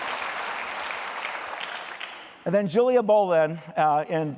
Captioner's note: applause